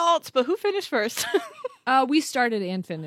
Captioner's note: laughs